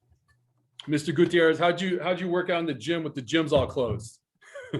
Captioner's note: goofy chuckle